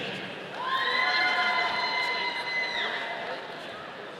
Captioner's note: audience cheering